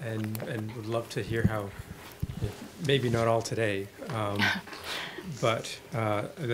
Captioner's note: laugh